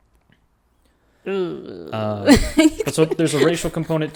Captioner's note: giggles